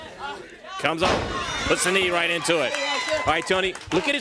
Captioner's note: crowd chatter